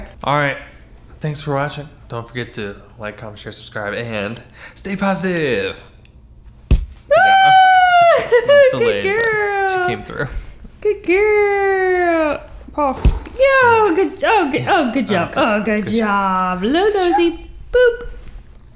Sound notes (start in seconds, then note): 16.8 laughs